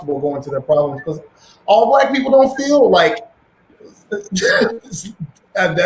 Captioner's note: laughs